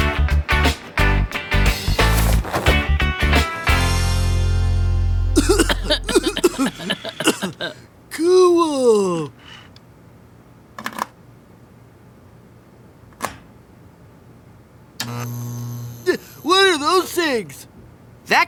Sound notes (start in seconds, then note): 5.3 coughing; 15.0 buzzing